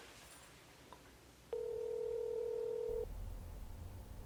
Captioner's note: phone ringing